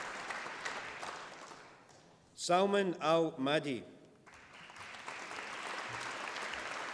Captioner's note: applause